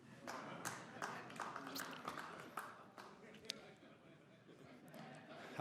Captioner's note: audience members clap, chuckle